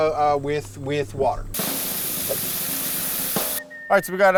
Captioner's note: water spraying